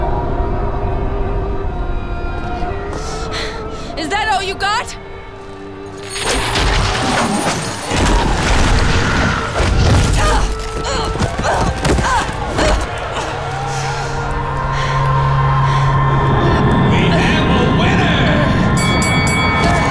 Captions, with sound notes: Is that all you got?! [groaning] [audience cheering] And the winner... [dinging]